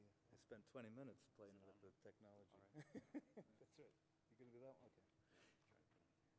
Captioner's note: laughing